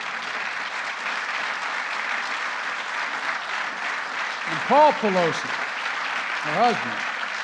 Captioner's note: applause